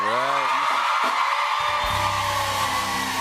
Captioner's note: cheers and applause